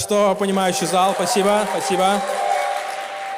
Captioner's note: applause